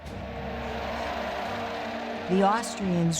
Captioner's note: cheering